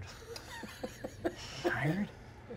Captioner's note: laughing